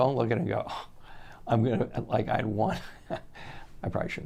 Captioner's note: chuckles